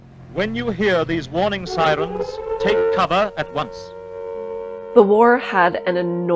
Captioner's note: siren blares